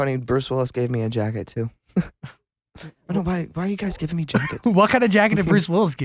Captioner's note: laughs